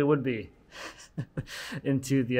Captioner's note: laughing